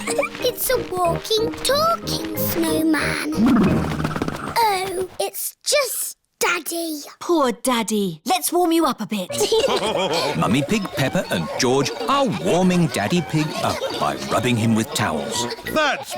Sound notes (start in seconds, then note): 0.0 laughs; 9.3 laughter